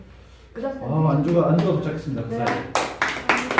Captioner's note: clap